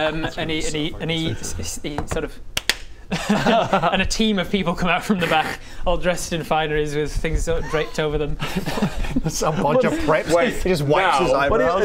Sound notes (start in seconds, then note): 0.0 winces; 2.6 clap clap